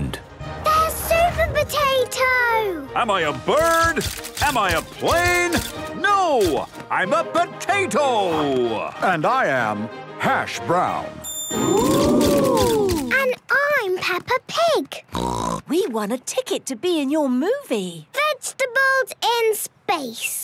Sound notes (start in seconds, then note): 15.1 snort